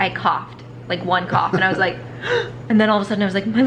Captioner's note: mom gasps